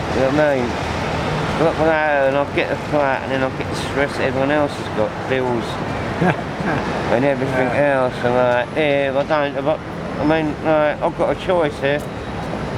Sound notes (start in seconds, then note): 6.0 interviewer laughs